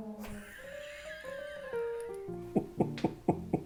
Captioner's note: comedy fail music; laughs